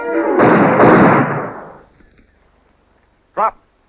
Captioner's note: gunshots